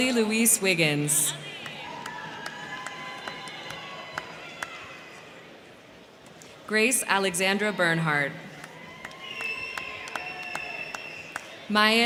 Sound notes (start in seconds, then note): 1.2 crowd cheering; 1.4 crowd clapping; 7.3 crowd cheering; 8.5 crowd clapping